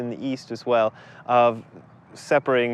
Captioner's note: street noise